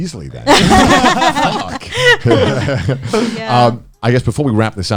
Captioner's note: all laughing